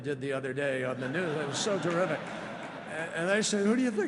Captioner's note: laughter